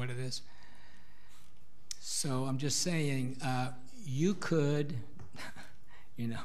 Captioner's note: laughs